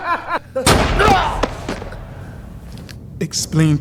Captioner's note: gun firing; man grunting